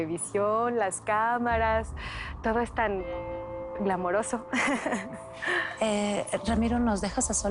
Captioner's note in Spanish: Risas